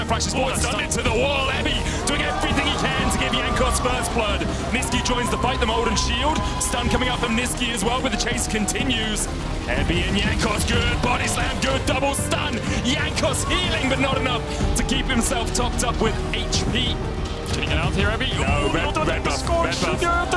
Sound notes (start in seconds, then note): 16.2 screams